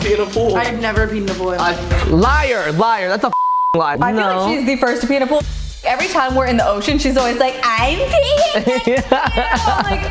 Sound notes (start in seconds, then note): 3.3 beep; 8.4 laughs